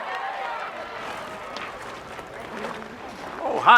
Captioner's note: group chattering